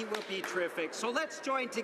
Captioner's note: some Applause